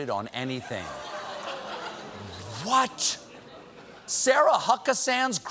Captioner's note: audience reacts